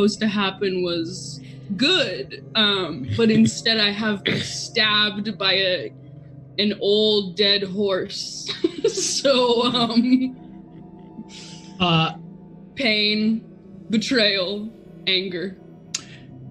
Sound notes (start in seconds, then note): 8.2 laughs; 8.5 group laughs